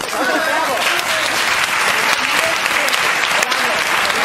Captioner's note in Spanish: Aplausos